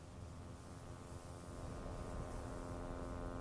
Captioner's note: buzzing